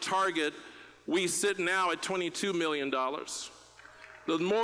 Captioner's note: applause